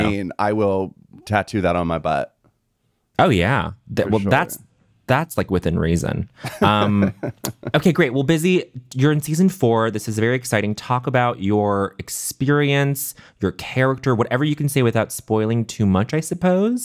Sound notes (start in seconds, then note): 6.4 laughing